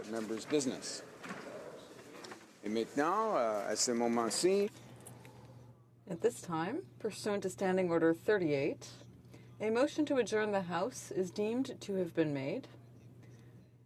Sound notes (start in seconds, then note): 6.4 speaking French